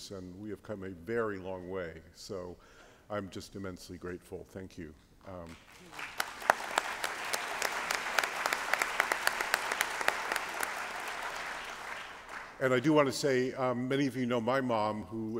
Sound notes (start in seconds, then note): 5.4 applause